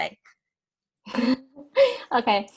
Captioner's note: laughing